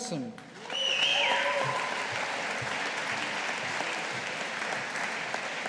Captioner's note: audience applauding